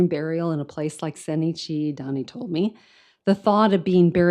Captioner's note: speaks in foreign language